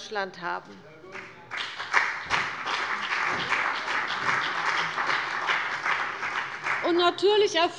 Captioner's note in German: Beifall bei dem BÜNDNIS 90/DIE GRÜNEN und der CDU